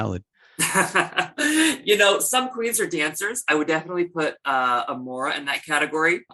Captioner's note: laughter